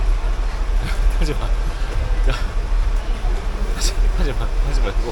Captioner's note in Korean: 헛웃음